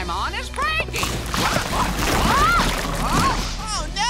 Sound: groaning

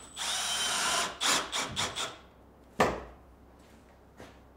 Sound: drilling in screws

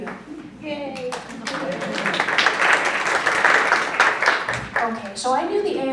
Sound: applause

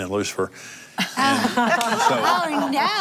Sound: laughter

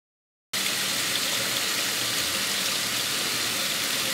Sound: water hissing

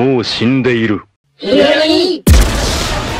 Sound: high pitched voices

